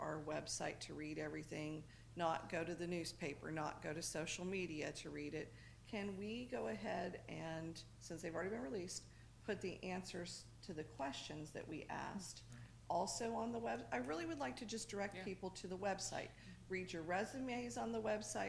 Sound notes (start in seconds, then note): none